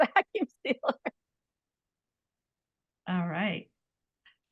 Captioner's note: laughing